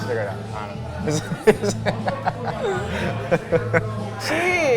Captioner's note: laughing